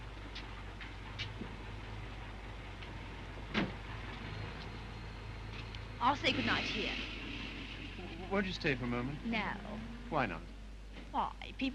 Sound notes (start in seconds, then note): 3.5 car door closes